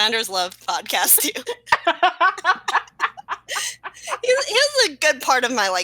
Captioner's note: laughter